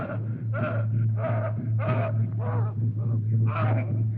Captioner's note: panting